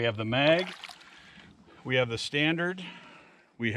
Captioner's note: fish splashing